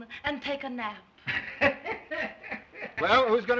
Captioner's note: laughs